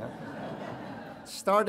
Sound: audience laughing

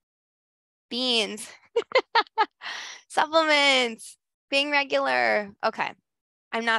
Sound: laughs

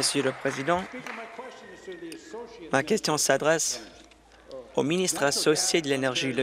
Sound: applause

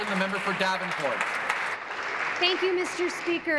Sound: applause

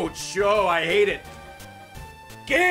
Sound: none

